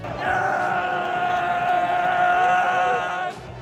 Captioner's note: fans screaming